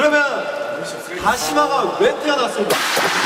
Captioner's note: rubbing